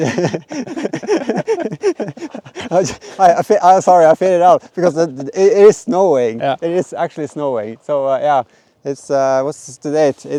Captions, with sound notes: (laughing) (laughing) Sorry, I faded it out because it is snowing. It is actually snowing. So yeah, it's, what's the date?